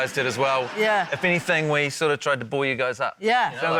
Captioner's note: laughter